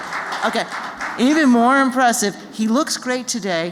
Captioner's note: applause